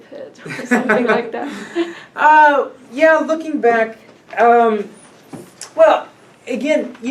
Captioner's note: laughs